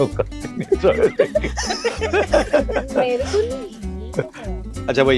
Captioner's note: laughter